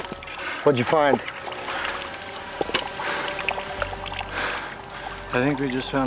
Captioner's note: breathing heavily